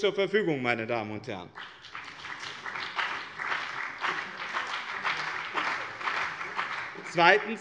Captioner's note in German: Beifall bei dem BÜNDNIS 90/DIE GRÜNEN und der CDU